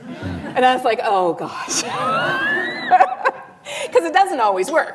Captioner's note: laughs